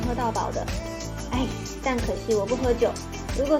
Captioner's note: sign~